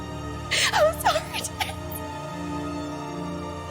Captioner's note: sobbing